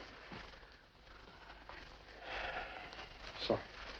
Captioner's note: suspira